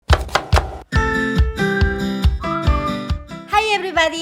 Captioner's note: knife thuds; bright music